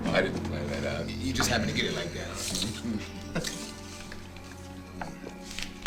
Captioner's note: laughs